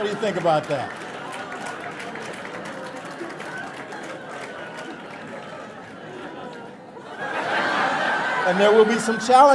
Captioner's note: audience laughter and applause